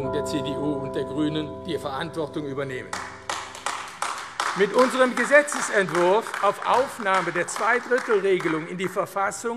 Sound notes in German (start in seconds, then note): 2.9 Beifall AfD